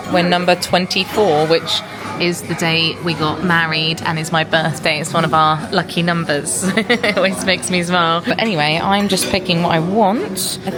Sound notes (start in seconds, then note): 7.0 laughs